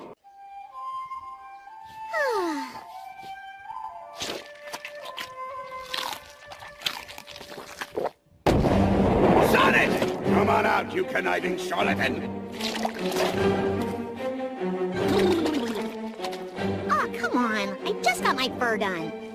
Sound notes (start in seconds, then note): 0.0 flute music plays; 4.1 crunching cucumber slices and swallows; 8.4 boom!